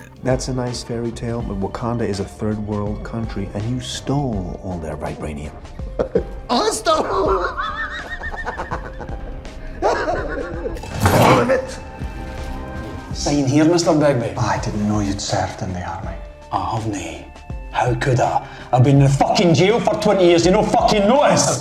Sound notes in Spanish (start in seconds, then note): 6.9 Risas